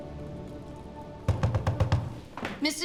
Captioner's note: knocking on door